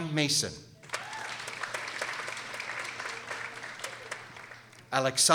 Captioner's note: people applauding